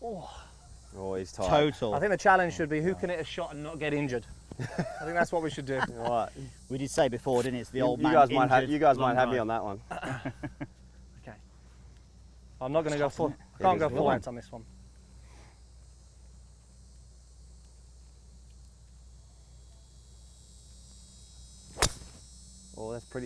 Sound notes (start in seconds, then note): 0.2 grunts; 9.9 laughing; 14.6 silence, bugs buzzing; 21.7 crisp golf drive